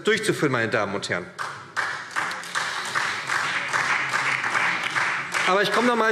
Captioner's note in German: Beifall SPD und DIE LINKE